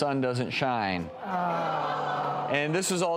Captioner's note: audience groans